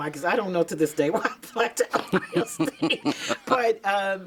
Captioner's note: laughing